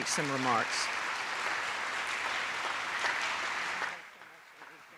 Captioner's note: attendees applauding